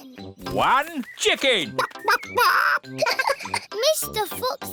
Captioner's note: giggles; clucks